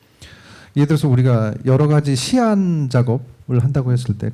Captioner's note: speaking korean